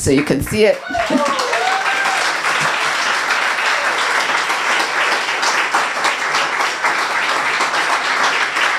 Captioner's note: applause